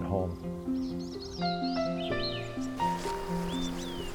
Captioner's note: birds chirping and trilling